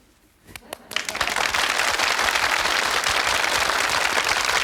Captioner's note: audience applauding